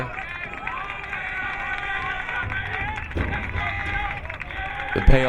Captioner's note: crowd clapping